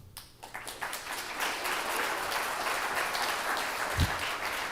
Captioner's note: attendees applauding